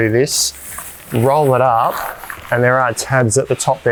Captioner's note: fabric rustles